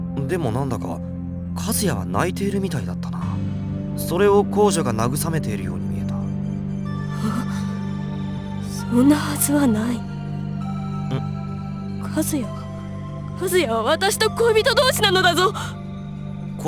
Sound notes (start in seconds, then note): 7.5 gasp